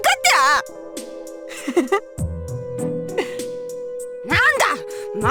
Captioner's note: chuckle